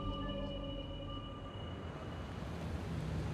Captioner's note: car approaching